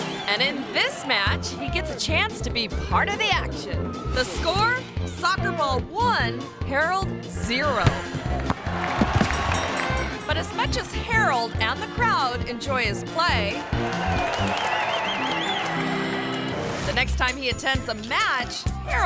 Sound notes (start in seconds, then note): 0.0 audience applauding; 7.6 ball thumps; 8.3 audience applauding; 9.0 bell dinging; 13.5 audience applauding; 13.6 bright playful music; 15.0 bright triamphant music